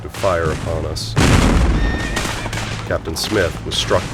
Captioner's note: gunfire